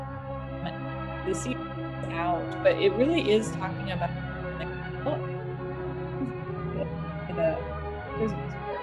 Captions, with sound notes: but it really is talking about (audio distortion)